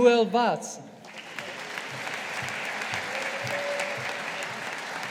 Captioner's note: audience applauding